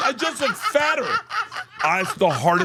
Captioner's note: laughs